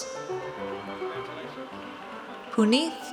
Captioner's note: audience cheers